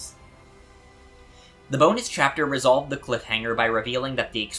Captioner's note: breathe